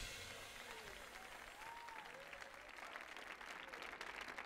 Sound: audience applauding

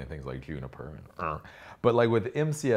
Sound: grunts

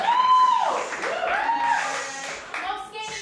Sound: applause; skateboarding noises

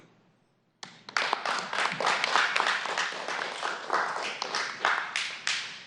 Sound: applause

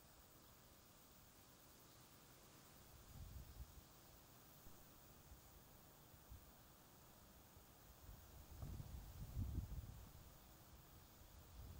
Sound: bird calls, insects chirping, wind blowing

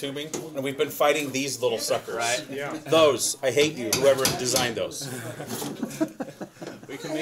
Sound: laughter

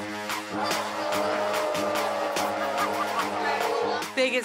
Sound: tense music; crowd booing

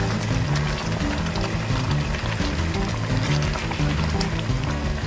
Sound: it’s simmering

